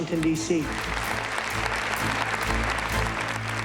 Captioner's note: applause